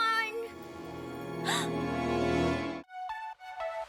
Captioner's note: gasps